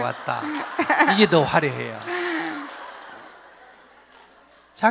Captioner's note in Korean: 질문자와 청중 웃음